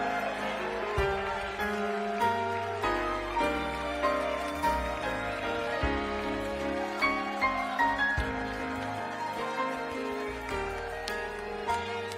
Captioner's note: applause